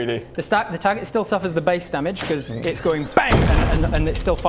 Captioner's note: bang!